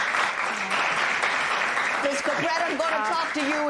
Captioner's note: applause